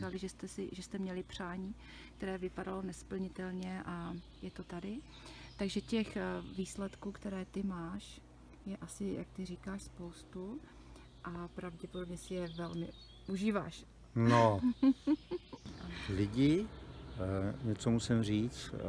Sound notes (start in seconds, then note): 14.2 laughter